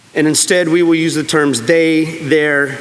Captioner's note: none